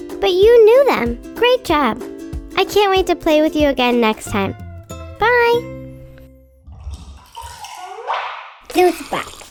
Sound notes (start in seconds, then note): 6.6 liquid pours; 6.9 cup pops